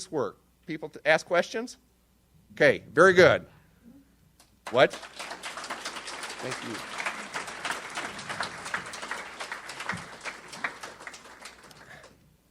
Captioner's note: audience applauds